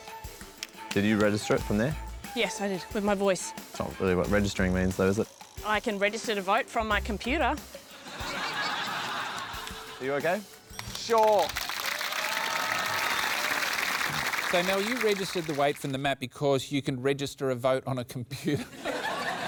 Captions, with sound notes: Did you register it from there? Yes, I did, with my voice. It's not really what registering means, though, is it? I can register to vote from my computer. Are you OK? Sure. (APPLAUSE) So, Mel, you registered the weight from the mat because you can register a vote on a computer.